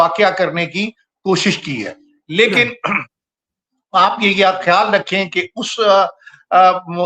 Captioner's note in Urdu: گلا صاف کرتا ہے